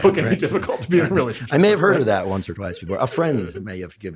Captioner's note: laughs